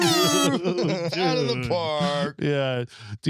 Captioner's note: horn honking; laughing